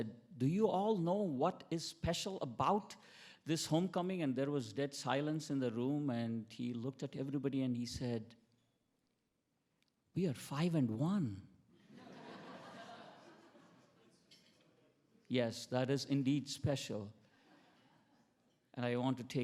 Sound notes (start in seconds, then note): 11.8 attendees laughing